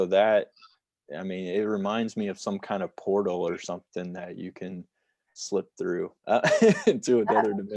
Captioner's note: laughter